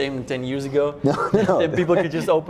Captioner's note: laughs